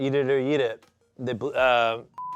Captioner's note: beep